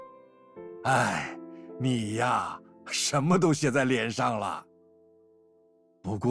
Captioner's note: sighs